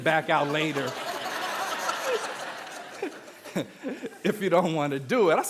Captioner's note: audience laughing